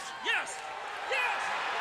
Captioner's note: crowd cheering